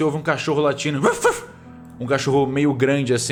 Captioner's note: wuf wuf